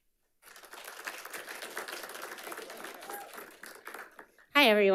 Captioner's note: audience applauding